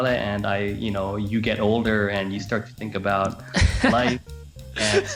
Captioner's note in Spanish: Risas